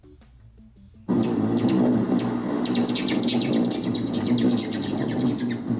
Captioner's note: hummingbird chirping